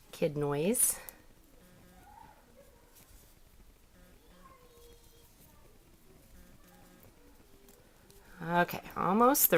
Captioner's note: more Kid Noise